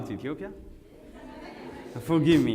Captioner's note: audience says yes